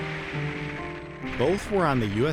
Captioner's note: bomb roaring